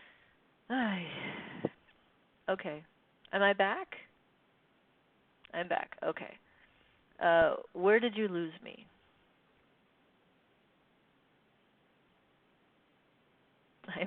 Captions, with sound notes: (sighs) Okay, am I back? I'm back, okay. Where did you lose me?